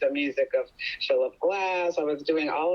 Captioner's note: laughs